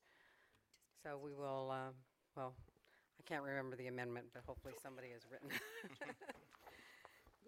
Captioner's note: laughter